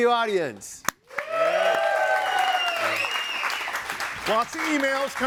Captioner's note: audience cheering and applauding